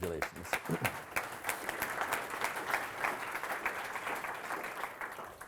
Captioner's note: audience applauding